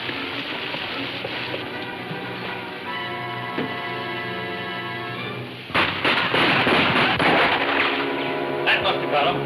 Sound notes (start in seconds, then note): 0.0 waterfall pouring; 4.2 ominous music playing; 7.4 guns shooting